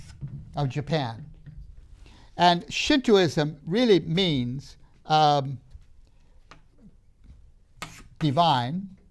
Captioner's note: marker clunks on the board; marker clunks on the board